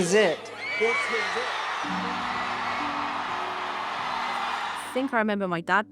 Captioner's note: crowd cheers